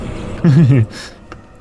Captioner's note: laughs